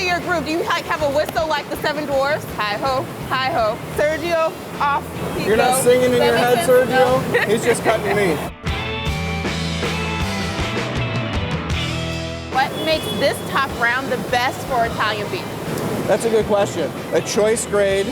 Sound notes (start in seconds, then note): 7.2 laughter; 8.6 blues music